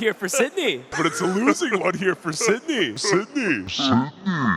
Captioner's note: laughs